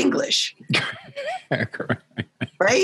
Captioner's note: laughing